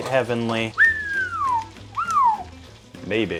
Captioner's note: whistles